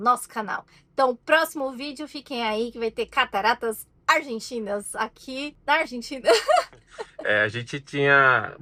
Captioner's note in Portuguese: risadas